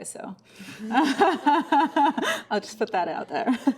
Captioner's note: everyone laughs